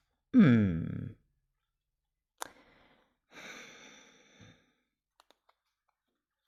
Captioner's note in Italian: sospiri